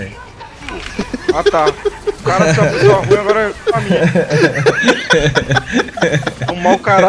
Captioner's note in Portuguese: risos